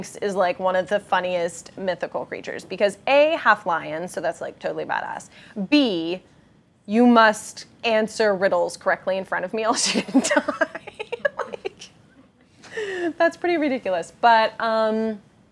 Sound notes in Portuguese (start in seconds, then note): 9.8 risos